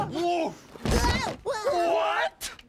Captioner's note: thud